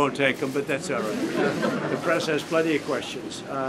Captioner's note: laughter